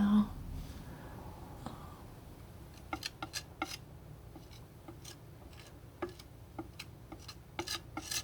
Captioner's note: scratching